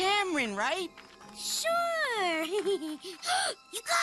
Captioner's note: giggles; gasping